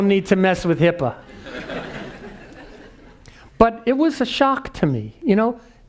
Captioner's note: laugh